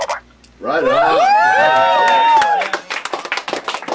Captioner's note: cheering; applauding